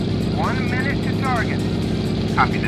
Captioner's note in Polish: radio